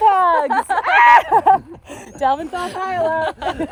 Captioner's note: girls laugh